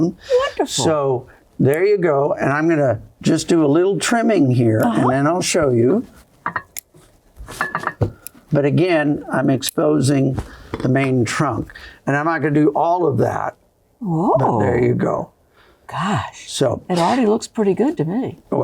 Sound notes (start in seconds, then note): 3.9 scissors snipping